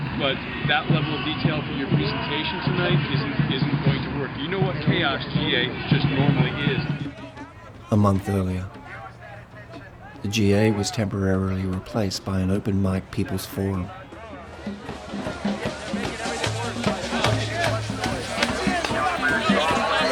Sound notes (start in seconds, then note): 7.8 voiceover; 15.7 drums